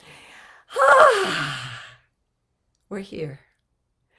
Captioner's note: deeply exhaling